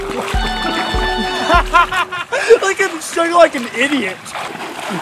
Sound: laughing

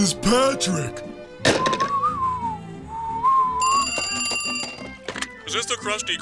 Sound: whistling, ringing

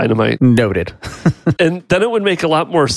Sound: chuckles

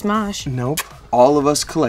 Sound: smooches

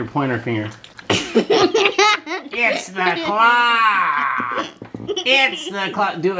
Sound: laughing

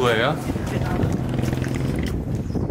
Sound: motor boat waiting

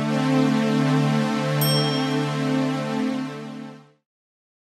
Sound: ding!

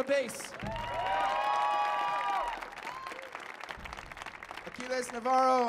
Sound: audience cheers and applauds

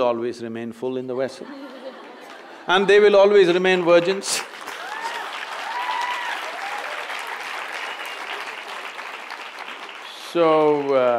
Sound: cheers/Applause

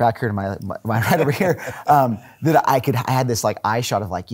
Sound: laughing

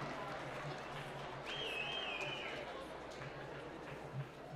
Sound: applause; whistling

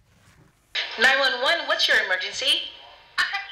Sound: female 911 responder speaking

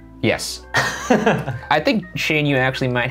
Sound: laughing

